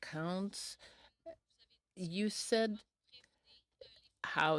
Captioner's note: speaking french